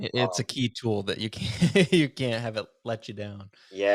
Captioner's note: laughs